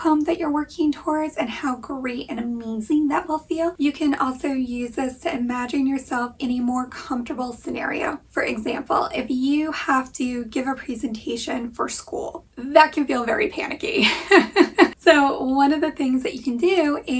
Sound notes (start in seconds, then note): 14.0 laughing